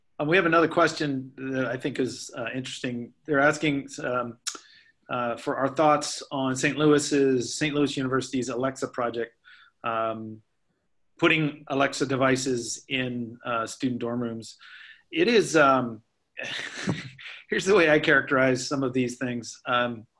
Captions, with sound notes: We have another question that I think is interesting. They're asking for our thoughts on St. Louis University's Alex project, putting Alex devices in student dorm rooms. (laughs) Here's the way I characterize some of these things.